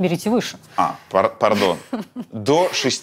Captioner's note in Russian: смеётся